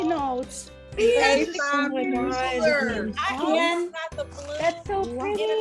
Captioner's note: excited chattering